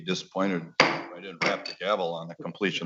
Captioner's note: gavel knocking